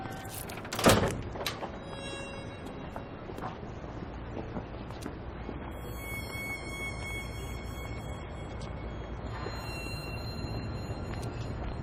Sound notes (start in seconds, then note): 0.1 door closing